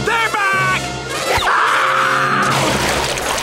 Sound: screaming

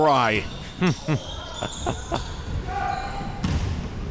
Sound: laughing

